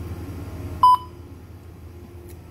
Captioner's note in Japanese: 商品のバーコードスキャン音